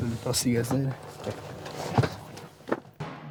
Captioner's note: voiceover